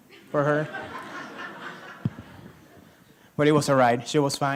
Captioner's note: laughter